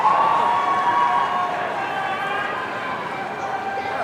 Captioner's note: audience cheering